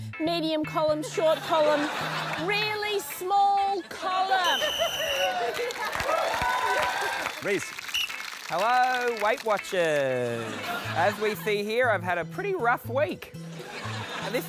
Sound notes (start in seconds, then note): 4.4 blows whistle; 6.3 cheering; 7.8 blows whistle